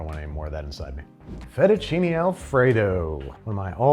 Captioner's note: air whooshes